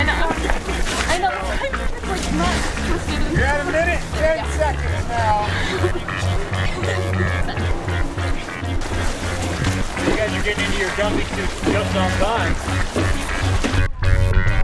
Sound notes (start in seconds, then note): 11.1 splashing noises